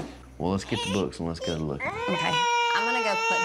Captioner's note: starts crying